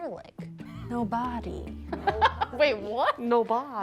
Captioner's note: laughing